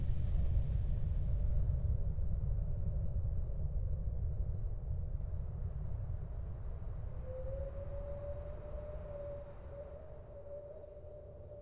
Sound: wind

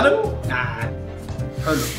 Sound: tsks

